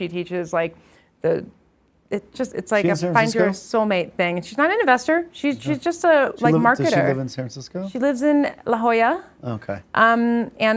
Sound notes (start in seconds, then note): none